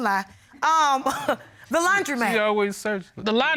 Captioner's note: chuckles